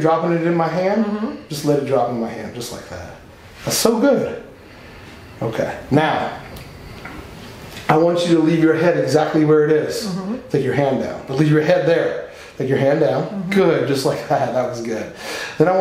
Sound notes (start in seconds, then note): none